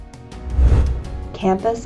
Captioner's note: swoosh sound effect